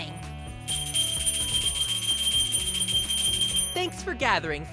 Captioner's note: bell ringing